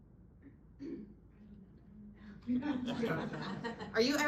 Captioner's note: audience laughing